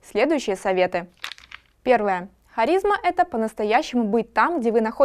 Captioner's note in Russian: звук перелистывания